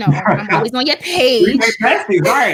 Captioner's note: laughing